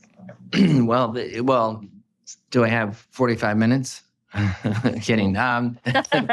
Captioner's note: chuckling